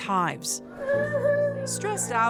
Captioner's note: child wailing